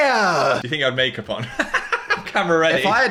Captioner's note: laughs